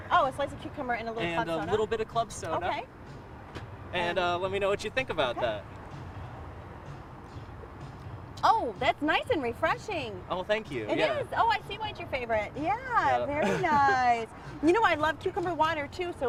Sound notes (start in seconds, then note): 13.4 laughter